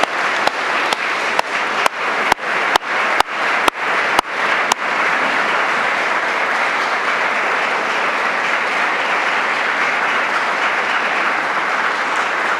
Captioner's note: applause